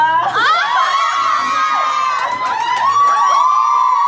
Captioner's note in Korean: 아오오오오오!!